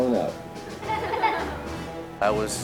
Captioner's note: kids laughing